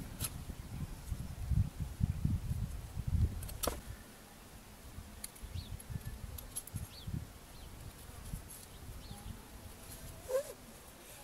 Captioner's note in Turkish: Kesme sesi